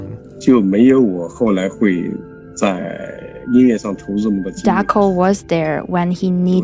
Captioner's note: speaking Mandarin Chinese